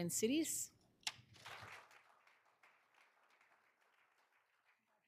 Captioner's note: all applauding